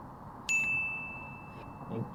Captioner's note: ding!